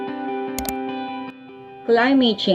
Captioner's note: click